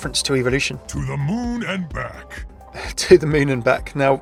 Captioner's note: voiceover